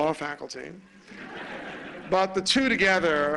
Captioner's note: laughter